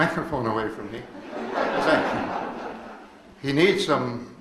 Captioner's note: audience laughs